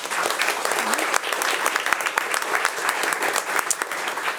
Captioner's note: attendees applauding